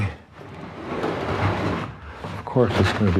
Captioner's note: dragging Sound